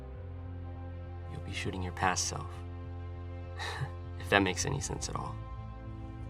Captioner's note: laughs